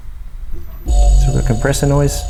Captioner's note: compressor buzzing